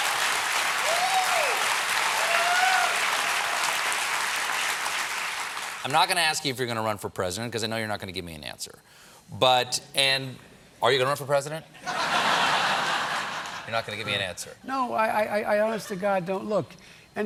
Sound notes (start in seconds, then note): 0.0 applause; 11.8 laughter